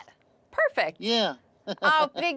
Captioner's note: laughing